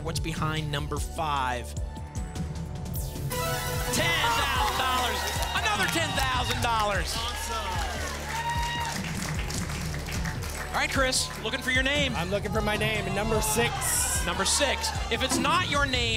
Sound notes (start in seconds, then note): 7.1 applause